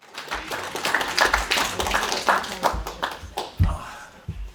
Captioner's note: applause